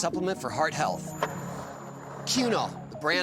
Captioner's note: skateboard wheels roaring